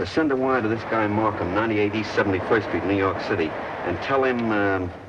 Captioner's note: train chugging